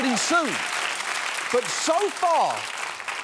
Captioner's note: audience applauding